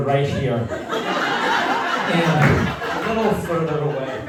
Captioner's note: laughter